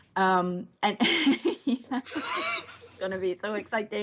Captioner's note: laughs